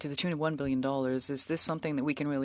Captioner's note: speaking French